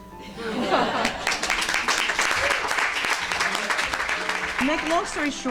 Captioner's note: audience laughing and clapping